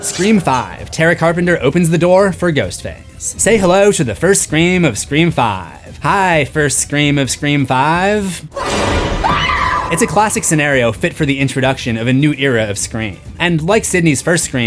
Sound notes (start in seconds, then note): 8.5 screams